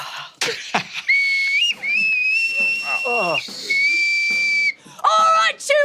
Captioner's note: whistle shrieking